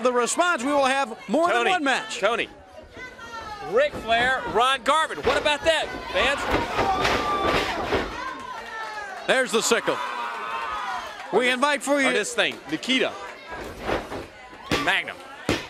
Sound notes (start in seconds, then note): 10.4 crowd cheering